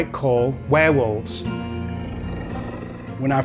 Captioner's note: mellow haunting music; animal growling